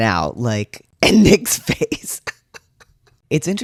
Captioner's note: laugh